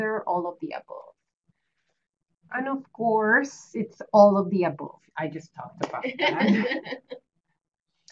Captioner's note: laughter